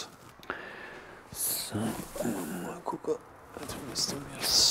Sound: quietly

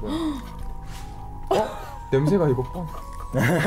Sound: gasps; speaks in foreign language

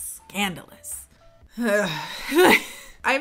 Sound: groans

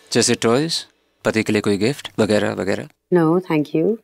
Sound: none

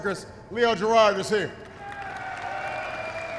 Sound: applause

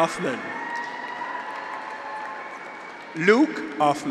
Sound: graduates cheer

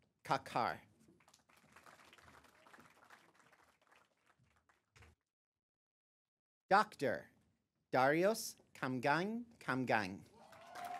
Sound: applause; applause

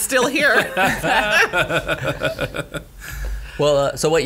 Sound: laughing

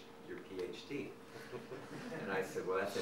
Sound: audience laughing

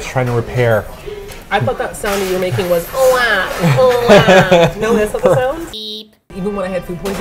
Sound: laughs

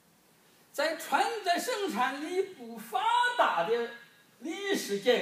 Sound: speaking foreign language

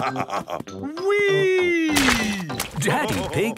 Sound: splashes

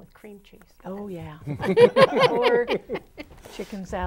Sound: laughing

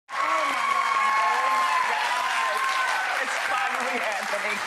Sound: audience cheering

